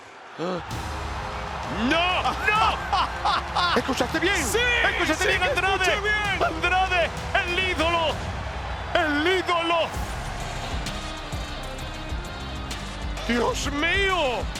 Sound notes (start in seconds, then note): 2.8 laugh